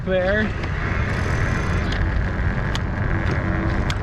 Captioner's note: wheels whirring